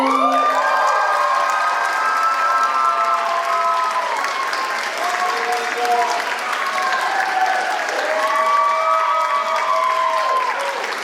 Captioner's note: applause